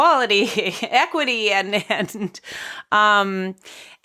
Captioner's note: laughing